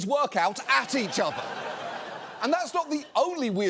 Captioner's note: audience laughs